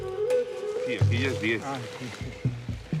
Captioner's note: Spanish language